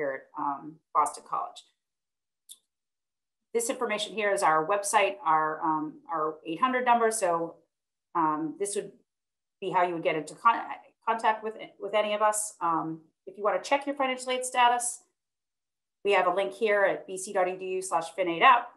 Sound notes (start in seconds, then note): 2.4 clicking